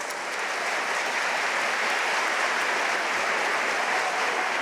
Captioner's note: audience applauding